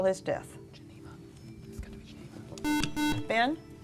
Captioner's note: whispering; beeping